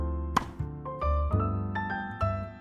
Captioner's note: thwack